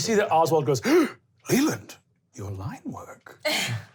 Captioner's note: gasping